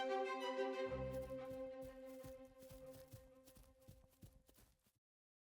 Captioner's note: tiny footsteps crunching on sand